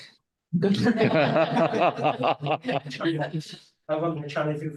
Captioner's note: all laughing